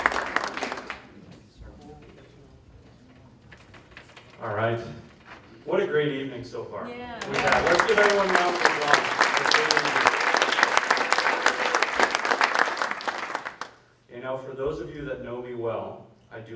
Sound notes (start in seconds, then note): 7.2 speaker drowned out by applause